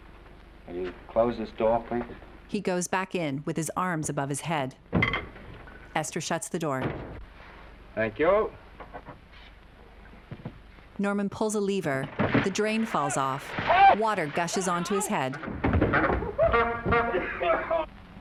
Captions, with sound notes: Will you close this door, please? -[door slamming] -Thank you. Oh! Oh! Well, now! -[horn honking] -[Norman coughing]